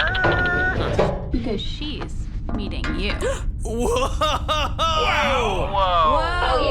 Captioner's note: gasps